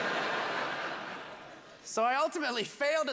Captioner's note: laughter